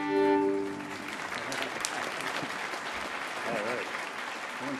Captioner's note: audience applauding